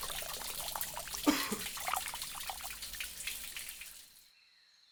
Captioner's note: water splashing; man coughing